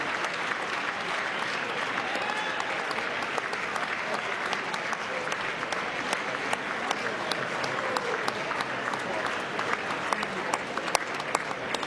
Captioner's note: applause